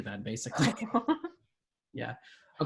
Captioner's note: laughs